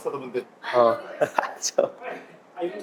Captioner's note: laughs